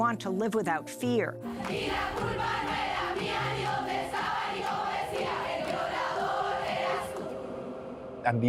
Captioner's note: women chanting in Spanish